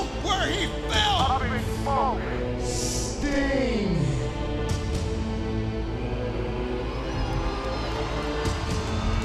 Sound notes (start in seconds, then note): 5.4 crowd cheering